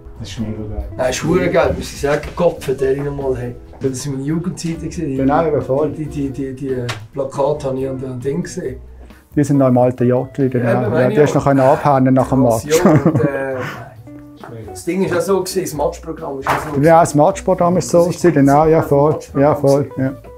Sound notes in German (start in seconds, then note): 12.7 lacht